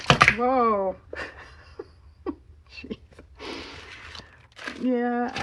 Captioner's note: laughs